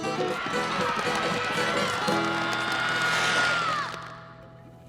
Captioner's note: screaming